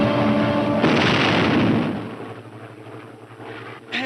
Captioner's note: bomb exploding